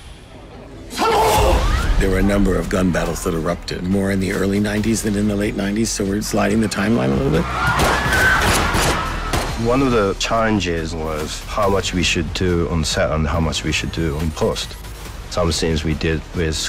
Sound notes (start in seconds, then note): 7.1 all screaming; 7.6 gunshots